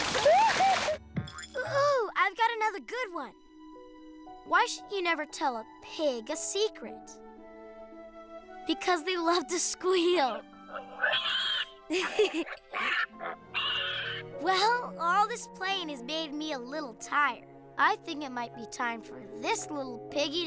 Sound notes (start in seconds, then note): 0.0 whooping; 10.6 pig squealing